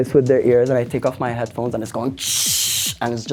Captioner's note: shhhh